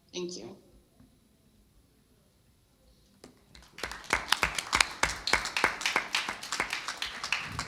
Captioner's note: applause